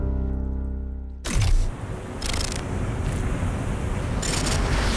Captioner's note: waves crashing